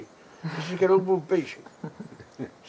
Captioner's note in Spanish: risas